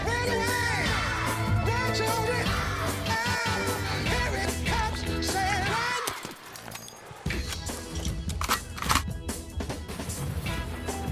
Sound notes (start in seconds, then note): 8.2 gun cocking sfx